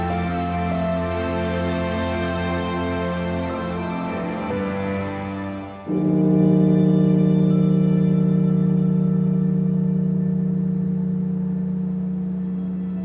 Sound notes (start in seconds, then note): 5.8 bell tolling; 8.6 somber music